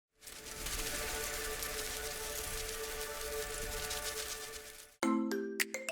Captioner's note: butterflies Fluttering; peppy Music